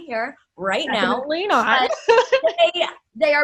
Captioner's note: laughs